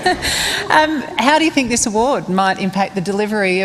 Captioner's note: laughter